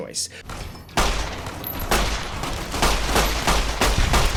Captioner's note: gun blasting